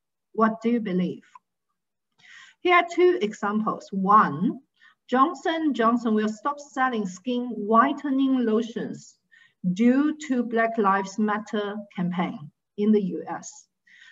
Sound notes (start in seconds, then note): none